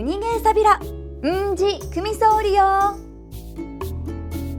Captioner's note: in Okinawan